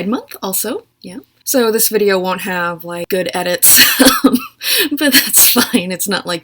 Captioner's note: laughs